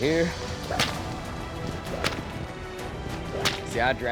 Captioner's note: whip cracks